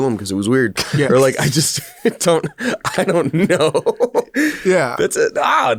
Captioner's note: laughs